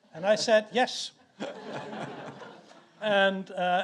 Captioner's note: audience laughs